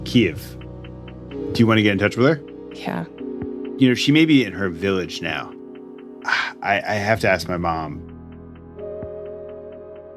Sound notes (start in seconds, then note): 6.2 sighs